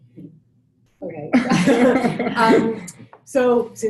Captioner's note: panel laughs